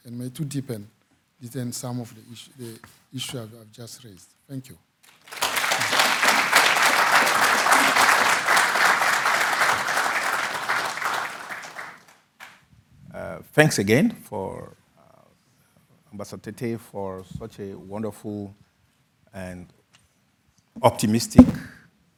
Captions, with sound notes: and may too deepen some of the issue I've just raised. Thank you. (audience applauding) - Thanks again for Ambassador Tete for such a wonderful and optimistic, uplifting presentation.